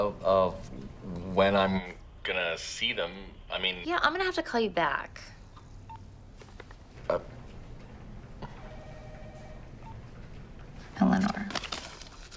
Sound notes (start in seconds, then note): 8.4 phone beeps